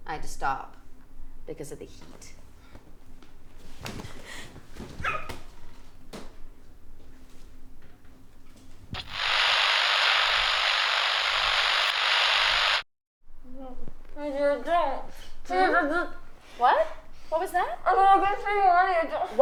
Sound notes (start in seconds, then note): 5.1 Jessie shrieking; 8.9 camera buzzing